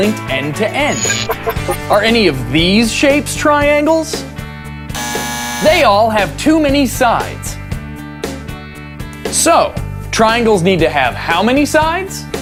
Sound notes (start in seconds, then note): 4.9 buzzer